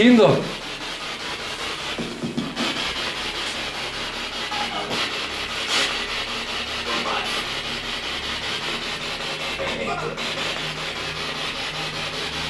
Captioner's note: radio noise from the spirit box